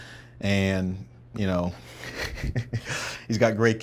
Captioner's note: laughing